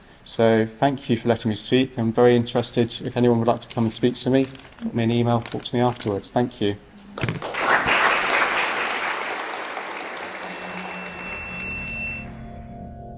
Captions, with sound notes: So, thank you for letting me speak. I'm very interested if anyone would like to come and speak to me, drop me an e-mail, talk to me afterwards. Thank you. [Applause] [Drone-like music]